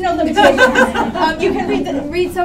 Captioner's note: laughter